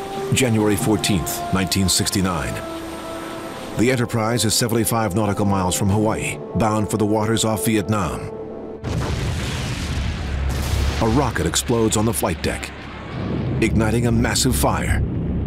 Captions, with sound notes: January 14th, 1969. The Enterprise is 75 nautical miles from Hawaii, bound for the waters off Vietnam. (rocket exploding) A rocket explodes on the flight deck, igniting a massive fire.